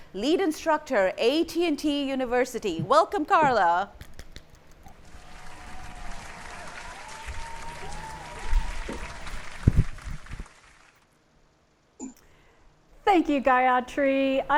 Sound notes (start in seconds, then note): 4.9 audience up lauding